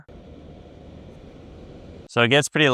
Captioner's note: air purifier whirring